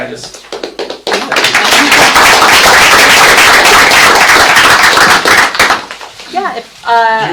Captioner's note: clapping